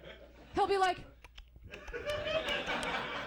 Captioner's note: clicking noises